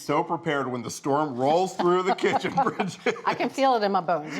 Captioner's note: laughs